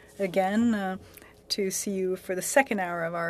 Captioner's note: speaking French